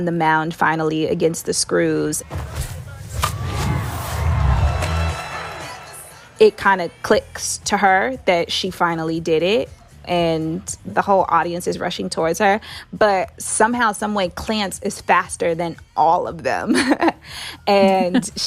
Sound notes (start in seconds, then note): 3.0 soundbite of bat hitting ball